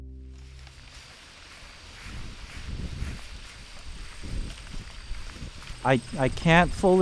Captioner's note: insects chirping; wind gusting